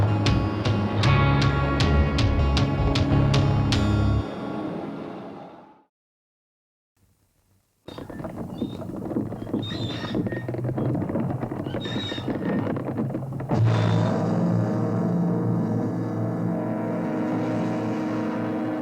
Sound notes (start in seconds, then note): 7.8 wood rattling; 7.9 metal squeaking; 13.7 suspenseful music